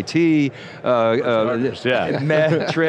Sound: chuckles

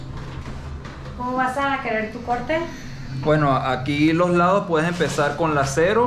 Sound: speaking in Spanish

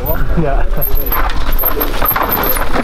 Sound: crowd

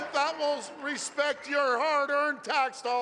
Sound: applause

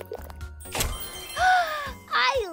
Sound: chime bells

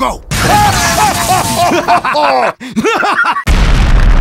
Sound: laughter

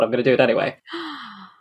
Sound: gasps

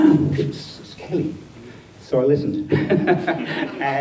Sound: laughs

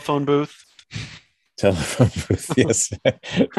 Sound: everyone laughs

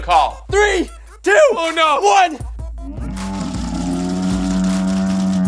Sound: slow speed yelling

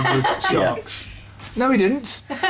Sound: laughs

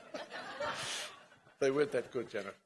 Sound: laughing

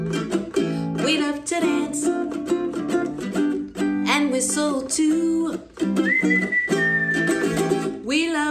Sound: whistling

